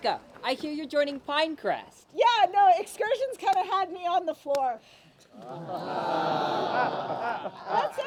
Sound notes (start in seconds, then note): 5.5 laughter